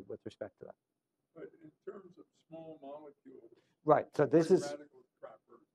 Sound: off microphone

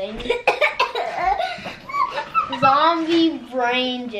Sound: coughs

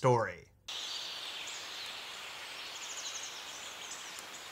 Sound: birds chirping

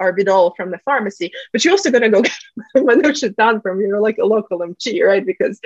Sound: russian

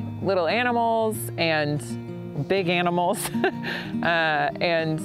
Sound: chuckles

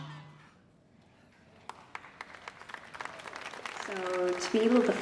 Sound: applause

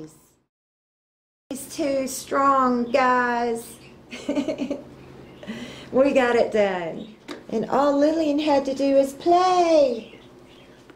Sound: laughter

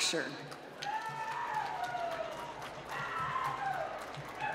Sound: applause

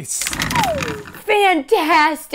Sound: rattling; slide whistle

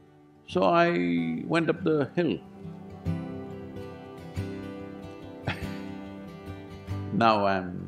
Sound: laughs

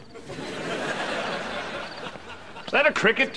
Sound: chirping

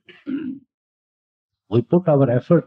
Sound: clears throat

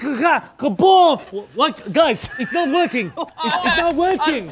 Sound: laughter

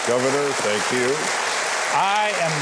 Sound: audience applauding

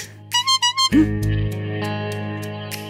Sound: message tone

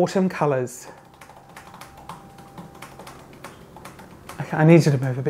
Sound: typing in background

